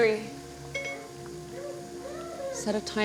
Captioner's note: phone beeping